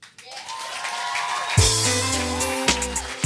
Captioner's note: audience cheers and applauds